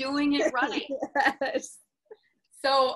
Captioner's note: laughs